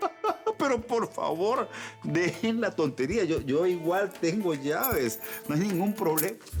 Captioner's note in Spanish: Risas